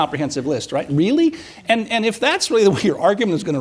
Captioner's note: chuckles